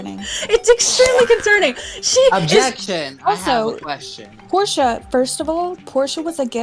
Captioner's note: boing